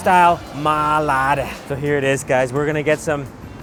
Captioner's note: foreign language